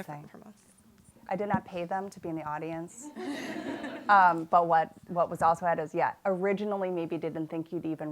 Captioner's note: laughter